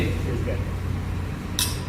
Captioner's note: glasses Clink